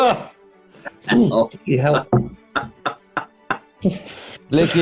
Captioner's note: chuckling